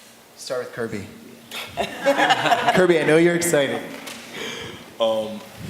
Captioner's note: laughter